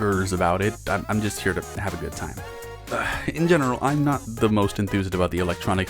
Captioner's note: sigh